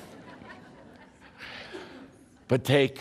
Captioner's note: laughter